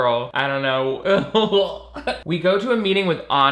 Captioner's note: laughing